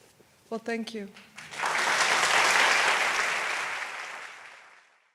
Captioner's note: audience applauds